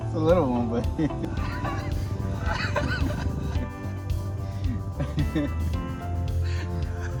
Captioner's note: laughter from both